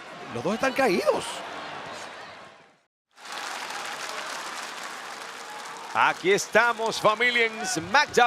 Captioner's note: applause